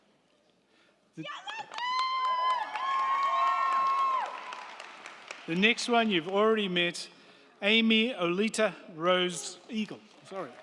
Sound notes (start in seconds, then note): 1.3 crowd cheering; 1.4 crowd clapping